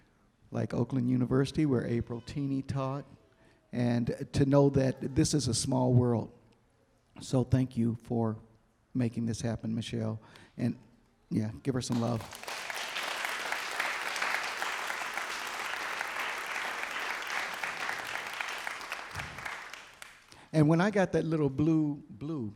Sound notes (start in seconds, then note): 11.9 applause